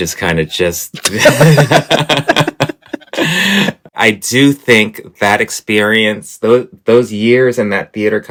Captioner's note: laughter